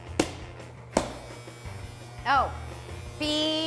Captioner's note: machine buzzing